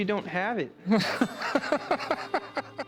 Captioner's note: laughs